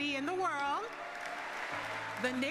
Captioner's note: cheers